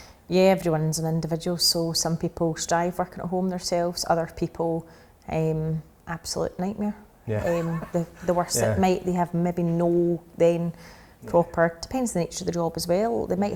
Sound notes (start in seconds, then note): 7.2 laughs